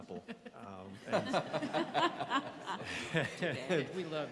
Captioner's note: laughing